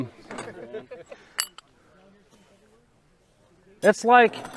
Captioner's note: men laughing